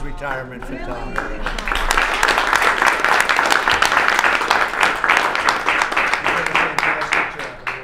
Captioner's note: applause